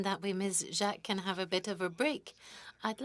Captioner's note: speaking French